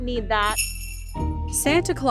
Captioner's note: bells jingling